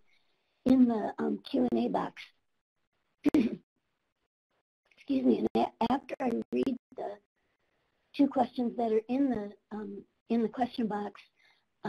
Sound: clear throat

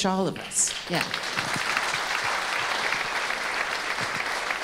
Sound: audience applauding

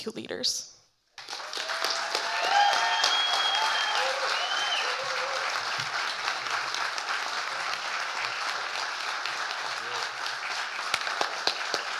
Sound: audience cheering and applauding

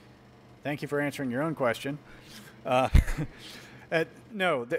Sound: chuckles

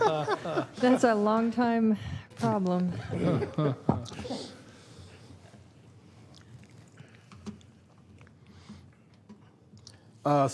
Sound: laughter

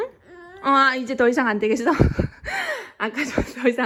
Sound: haha

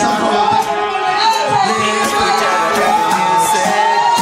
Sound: audience cheering

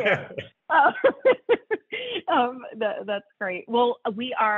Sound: laughter

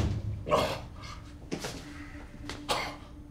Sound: gasping

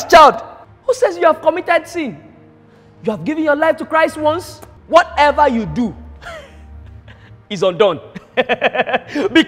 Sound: laughter

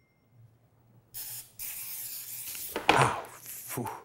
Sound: aerosol spray

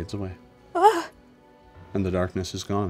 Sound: Linneus whimpers

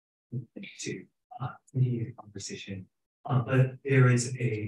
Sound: speaking faintly

